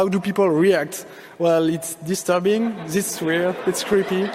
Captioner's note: audience laughing